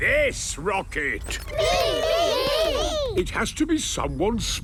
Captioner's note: calling out in turn